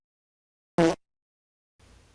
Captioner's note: fart sound effect x2